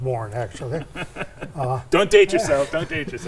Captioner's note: chuckles